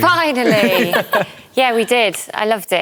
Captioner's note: laughter